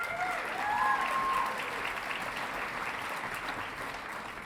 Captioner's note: audience clapping